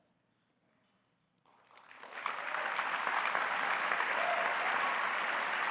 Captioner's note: applause